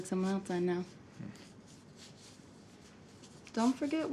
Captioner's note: Isaac scoffs